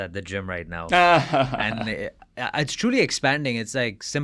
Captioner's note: laughs